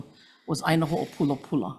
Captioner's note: foreign language